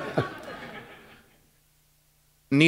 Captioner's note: chuckle